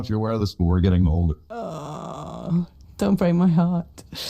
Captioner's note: groans